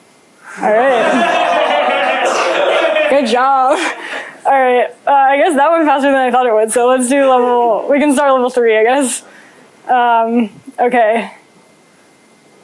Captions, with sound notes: All right. [LAUGHTER] Good job. All right. I guess that went faster than I thought it would. So let's do level-- we can start level 3, I guess.